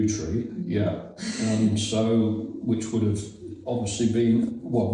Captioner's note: chuckles